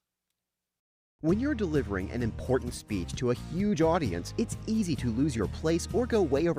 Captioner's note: voiceover